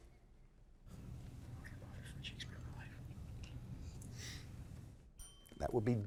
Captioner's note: faintly speaking; bell ringing